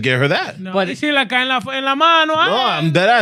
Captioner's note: speaking Foreign Language